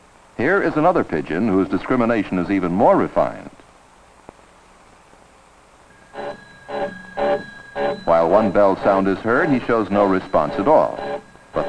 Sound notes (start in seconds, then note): 5.9 doorbell rings